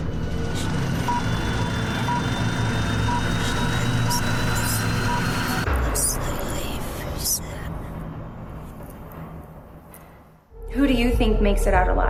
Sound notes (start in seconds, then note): 0.7 projector whirring; 1.0 countdown beeping; 2.1 voices whispering